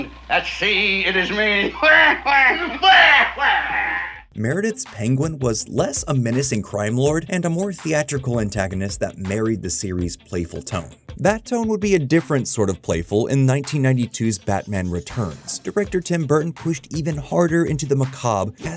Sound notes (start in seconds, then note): 1.7 Penguin laughter